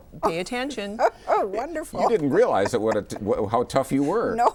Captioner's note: laughs